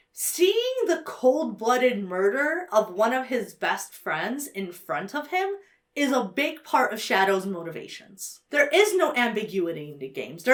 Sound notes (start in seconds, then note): none